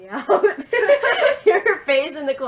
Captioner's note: laughs